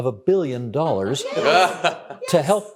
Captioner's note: laughing